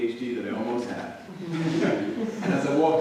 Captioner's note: audience laughing